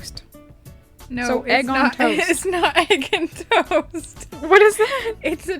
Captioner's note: laughs